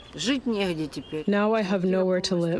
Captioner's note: through translator